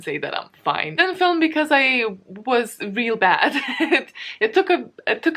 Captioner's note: laughs